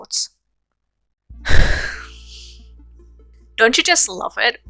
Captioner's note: sigh